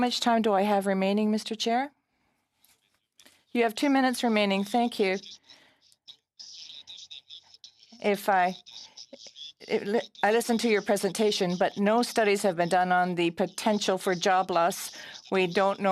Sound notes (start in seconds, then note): 2.1 speaking French